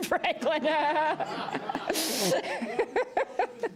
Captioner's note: laughter